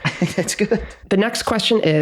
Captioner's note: chuckles